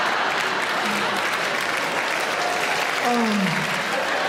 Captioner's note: audience laughing; audience laugh and clap; audience laughing